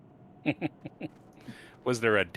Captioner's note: chuckles